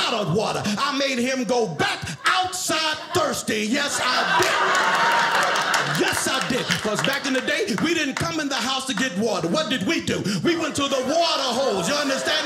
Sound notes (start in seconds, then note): 4.4 audience laughing